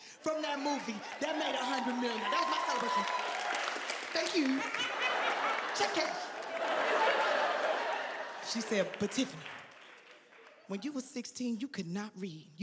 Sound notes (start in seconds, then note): 3.4 audience cheering; 4.7 audience laughing; 6.9 audience laughing